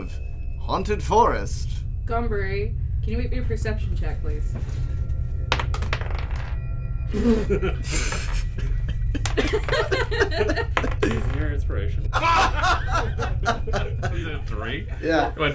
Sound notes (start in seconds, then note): 4.3 somebody blows a raspberry "PFFF--" and laughs; 5.5 a D20 clatters across the table; 12.1 he is quickly drowned out by an explosion of laughter